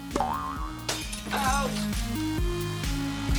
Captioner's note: glass shatters